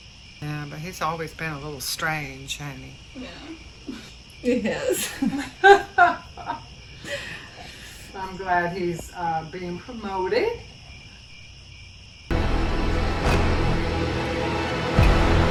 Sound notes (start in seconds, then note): 4.4 laughing; 11.2 crickets; 12.3 eerie music, crickets